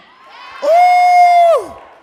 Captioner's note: audience cheering